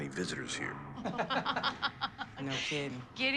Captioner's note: laughing